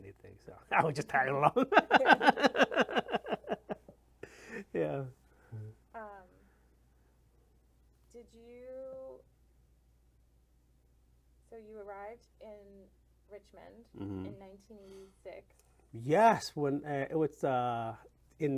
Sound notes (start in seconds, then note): 0.7 laughs